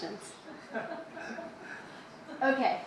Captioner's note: audience laughs